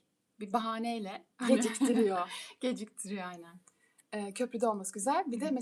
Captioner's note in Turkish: kahkaha